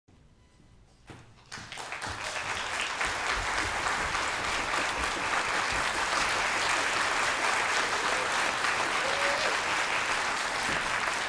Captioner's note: applause